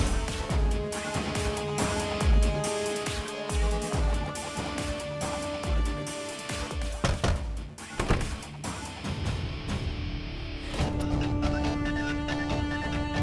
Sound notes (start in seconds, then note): 7.0 Door knocking; 7.9 Door opens